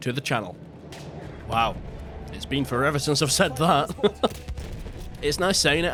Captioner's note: laughs